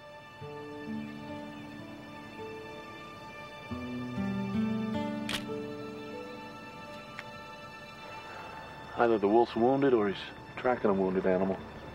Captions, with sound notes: (soft music) (camera clicks) - Either the wolf's wounded or he's tracking a wounded animal.